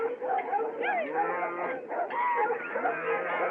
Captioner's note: lowing; men Shouting